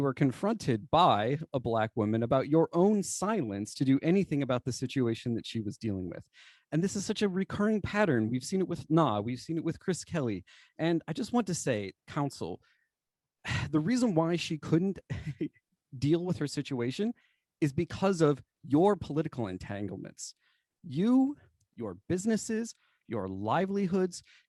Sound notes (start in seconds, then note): 15.0 laughter